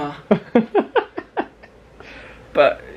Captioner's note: laughs